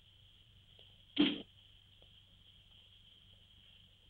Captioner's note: dart thuds